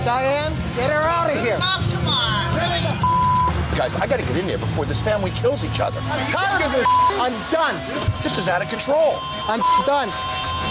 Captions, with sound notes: - Diane. Get her out of here. - Guys, I got to get in there before this family kills each other. - I'm tired of this (beep). I'm done. This is out of control. I'm (beep) done.